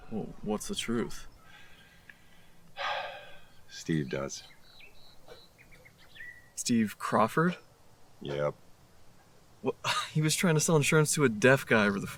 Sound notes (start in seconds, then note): 2.7 Chuck sighs